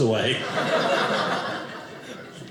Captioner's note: audience laughing